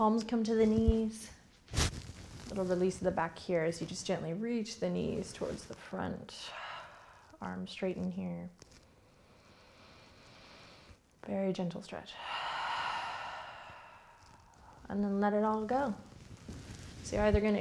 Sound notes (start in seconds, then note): 12.1 heavy breathing